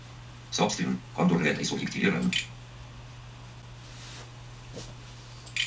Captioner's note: Speech synthesizer reads fragments of Igor Chubarov's article very fast